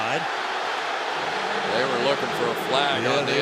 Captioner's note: cheering